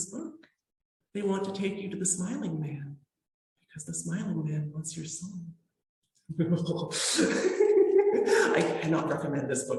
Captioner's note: creeped out noises